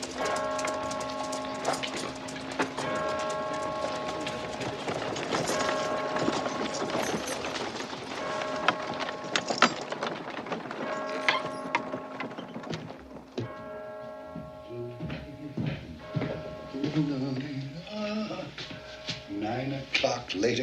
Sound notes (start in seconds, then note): 15.1 humming